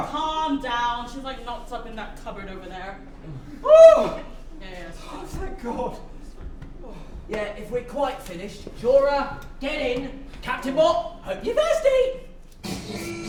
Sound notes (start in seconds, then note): 3.7 sounds of relief